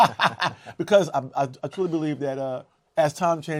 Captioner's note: laughs